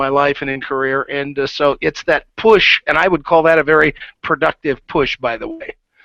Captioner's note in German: kichert